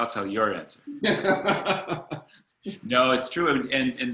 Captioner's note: laughs